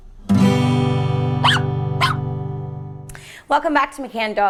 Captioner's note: guitar strums; dog barks